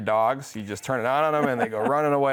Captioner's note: laughs